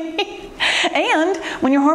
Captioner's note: cheerful laughter